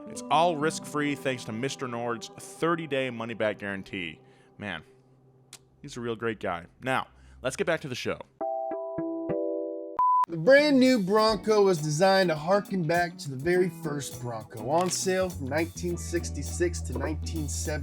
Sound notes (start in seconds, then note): 8.5 digital chiming; 10.0 beep